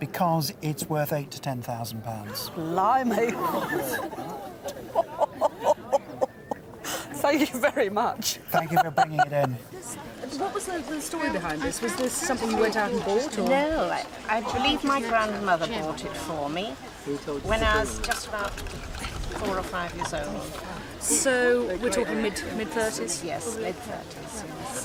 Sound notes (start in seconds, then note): 4.9 laughs